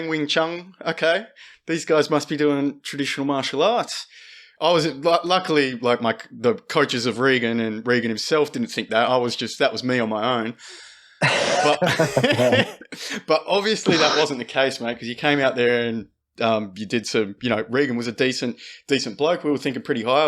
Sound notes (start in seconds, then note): 11.5 laughter